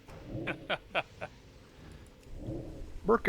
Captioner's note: laughs